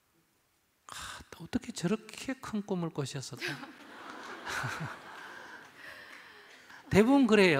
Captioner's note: audience/Questioner Laughter